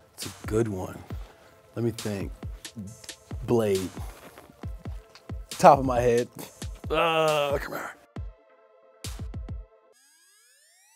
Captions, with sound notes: That's a good one! Let me think. Blade. Top of my head! (groaning) Come here!